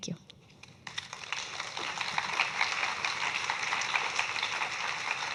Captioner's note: audience clapping